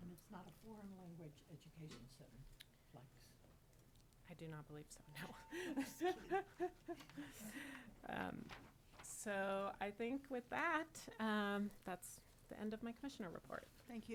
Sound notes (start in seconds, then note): 8.1 laughs